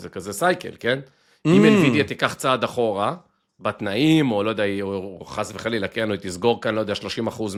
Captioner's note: clears throat